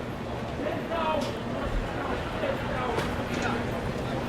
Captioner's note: shouting, mixed conversation